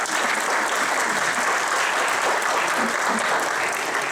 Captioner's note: audience applauding